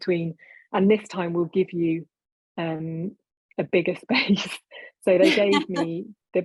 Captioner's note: both laughing